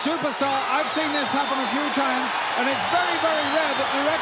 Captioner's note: crowd cheers